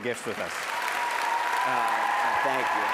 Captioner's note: applause